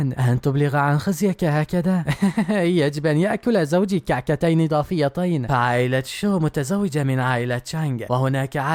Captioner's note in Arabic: ضحك